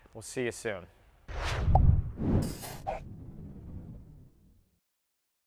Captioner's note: air whooshing